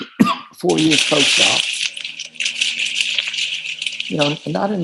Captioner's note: water splashing